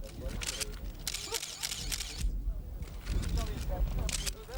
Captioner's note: cameras clicking